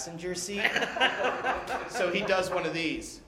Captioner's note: laughter